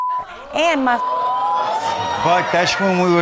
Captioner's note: audience exclaims